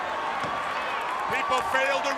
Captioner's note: crowd cheering